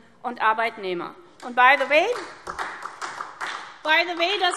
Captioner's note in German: Beifall SPD